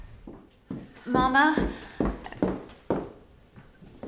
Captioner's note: footsteps